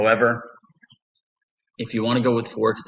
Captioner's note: pause